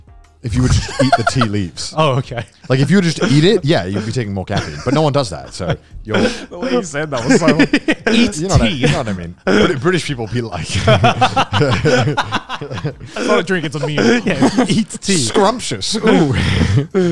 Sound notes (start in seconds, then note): 10.5 everyone laughs